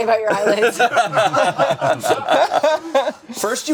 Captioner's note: group laughing